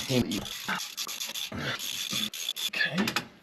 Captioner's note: ratchet whirring